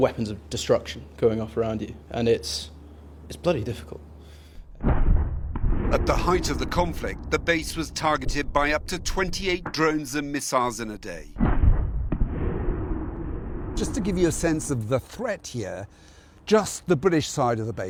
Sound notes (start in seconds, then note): 4.7 explosion